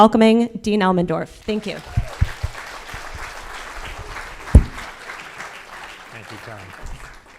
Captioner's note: audience cheers and applause